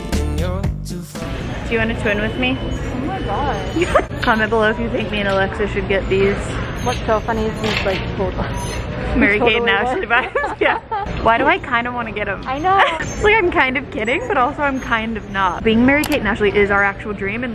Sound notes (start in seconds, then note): 3.6 laughs